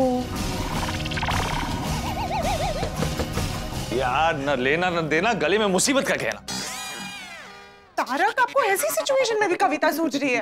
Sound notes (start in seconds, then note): 0.3 confusing music plays; 3.0 knocking